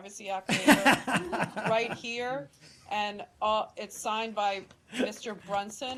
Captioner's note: laughter